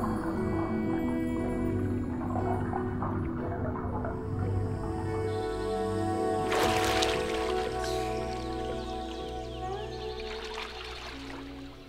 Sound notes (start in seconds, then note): 6.5 water splashing; 7.9 inhaling